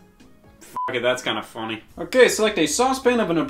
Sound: beep

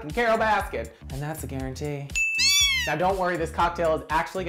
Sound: bell dings, kitten meows

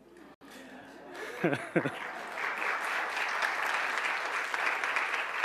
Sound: audience applauds

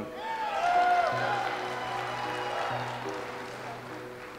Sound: audience applauds

